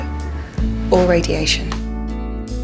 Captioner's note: voiceover